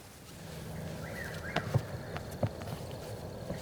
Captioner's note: birds Chirping